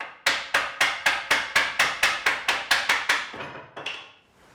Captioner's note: wood bangs repeatedly